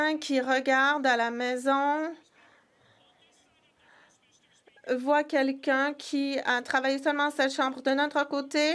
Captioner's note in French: voix de l'interprète